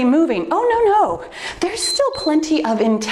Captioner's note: timer beeps